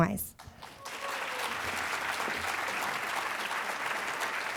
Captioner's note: applause